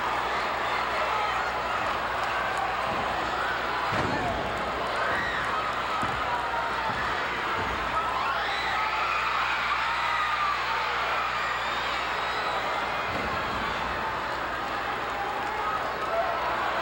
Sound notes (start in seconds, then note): 3.8 floor banging; 6.0 hand tapping